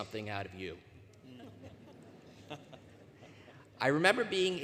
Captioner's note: laughter